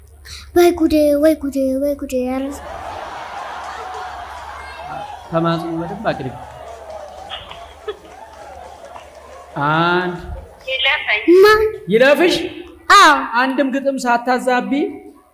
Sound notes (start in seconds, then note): 2.6 laughter